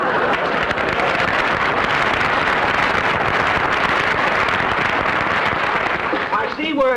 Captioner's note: audience laughter; applause